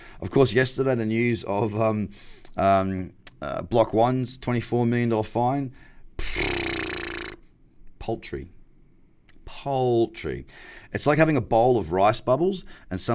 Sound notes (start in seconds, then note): 6.2 blows raspberry